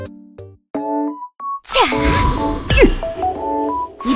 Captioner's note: zzzzt zzt zap zap